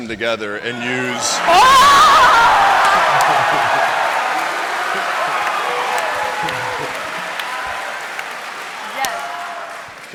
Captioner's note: cheering